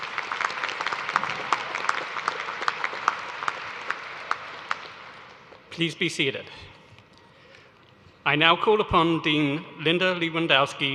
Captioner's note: applause